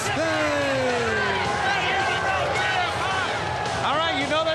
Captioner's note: crowd chatter